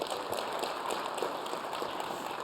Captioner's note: cheers and applause